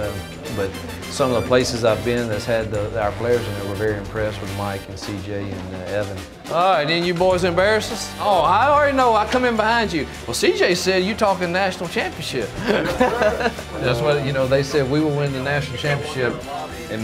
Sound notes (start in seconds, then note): 12.5 laughter